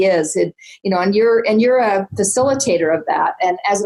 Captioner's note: none